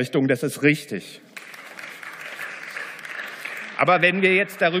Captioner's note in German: Beifall